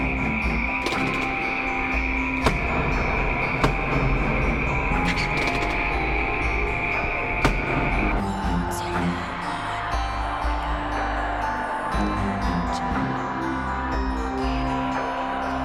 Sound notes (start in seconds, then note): 2.2 loud repetitive banging; 8.1 raspy whispering in a foreign language